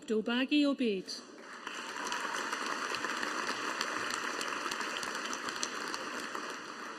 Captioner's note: audience applauding